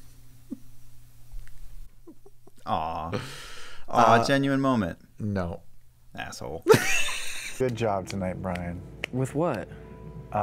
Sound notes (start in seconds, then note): 6.6 laughter